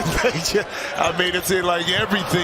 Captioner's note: laughs